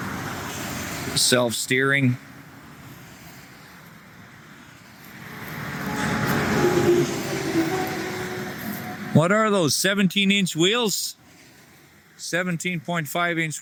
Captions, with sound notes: Self steering. [Engine noise] What are those? 17 inch wheels? 17.5 inch